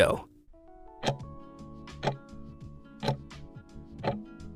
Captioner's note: timer ticking